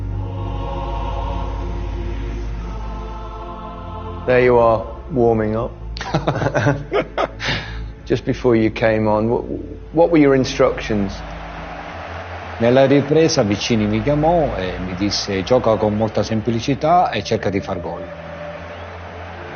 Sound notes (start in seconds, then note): 6.0 both laugh